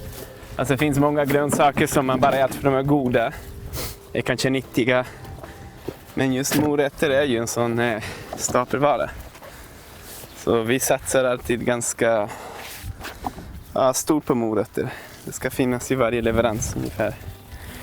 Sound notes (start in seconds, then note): none